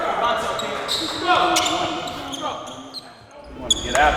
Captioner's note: indistinct chatting